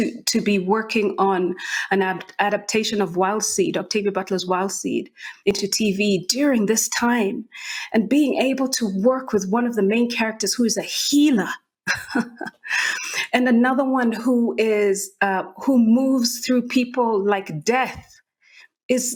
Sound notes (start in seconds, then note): 11.8 chuckles